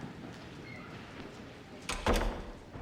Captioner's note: door closes